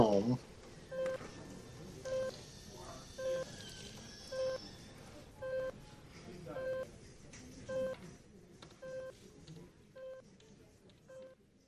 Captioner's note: beeping of a heart monitor